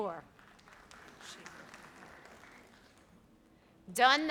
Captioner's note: audience applauds